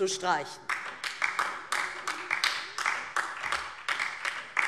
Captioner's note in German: Beifall DIE LINKE